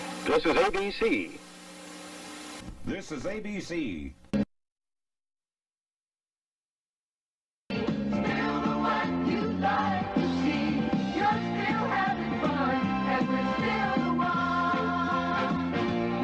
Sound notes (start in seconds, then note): 4.7 silence